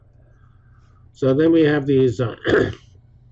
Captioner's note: cough